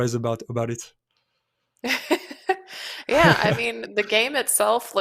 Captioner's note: laughs